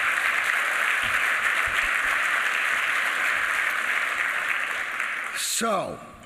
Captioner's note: applause